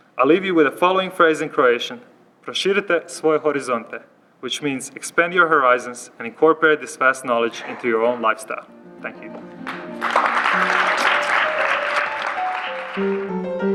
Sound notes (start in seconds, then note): 2.4 speaks Croatian; 9.1 applause; 13.3 closing music